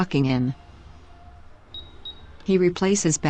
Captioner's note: computer beeps